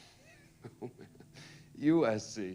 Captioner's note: laughs